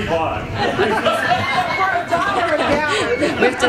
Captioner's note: chuckles